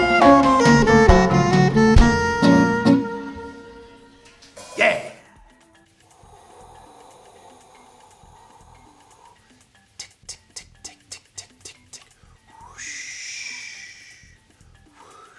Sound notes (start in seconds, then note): 0.0 jazzy music; 6.0 breath whooshing